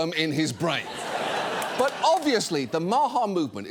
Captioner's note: studio audience laughs